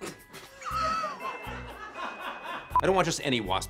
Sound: people laugh; beep

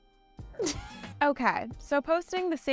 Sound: host chuckling

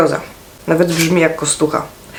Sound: in Polish

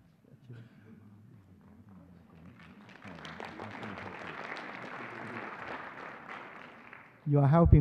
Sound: whispering; applause

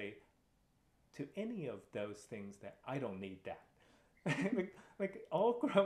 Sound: laughter

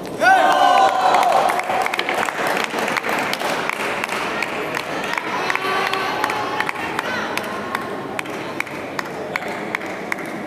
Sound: applause

